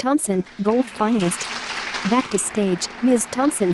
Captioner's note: applause